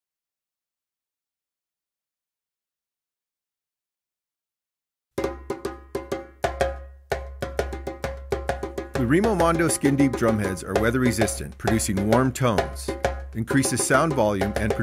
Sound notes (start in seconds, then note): 5.3 drums pitter-pattering; 9.1 voiceover